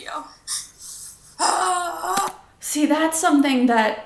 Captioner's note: groaning